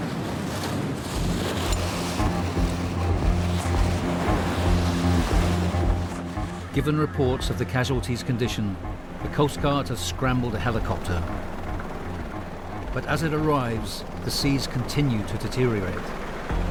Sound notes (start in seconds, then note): 0.0 boat droning; 0.3 water whooshing; 0.3 waves crashing; 11.5 helicopter whirring